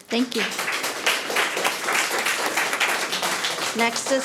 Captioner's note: audience applauding